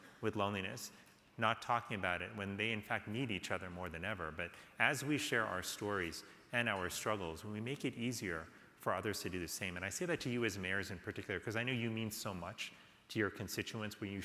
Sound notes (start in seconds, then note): none